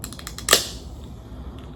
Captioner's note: pop